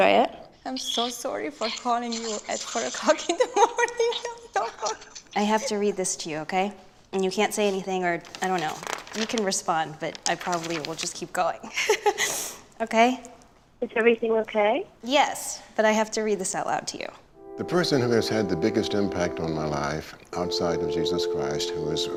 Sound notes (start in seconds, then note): 12.1 laughs